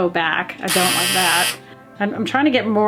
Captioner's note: buzzer blares